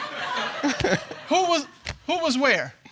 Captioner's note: all laughing